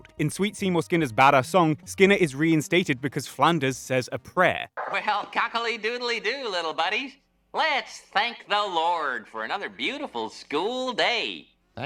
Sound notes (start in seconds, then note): 4.7 Flanders over Intercom